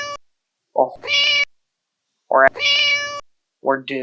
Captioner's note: meow